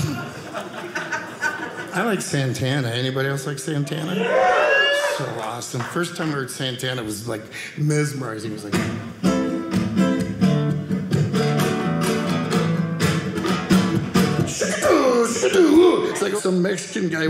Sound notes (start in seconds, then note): 4.0 audience cheering; 8.6 guitar playing